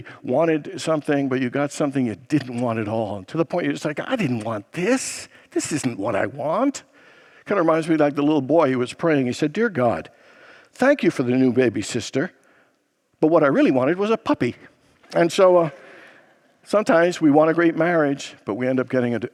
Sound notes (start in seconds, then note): 14.9 congregants laugh